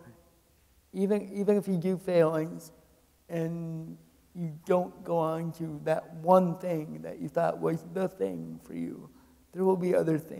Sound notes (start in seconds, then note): none